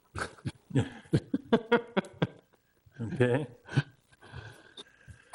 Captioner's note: laughing